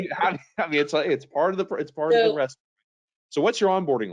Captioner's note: conversing quietly